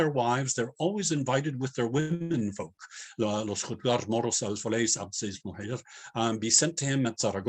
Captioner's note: non-english